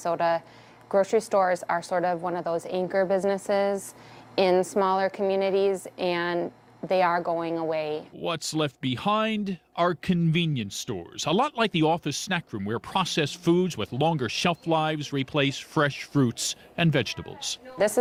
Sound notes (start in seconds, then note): 8.4 voiceover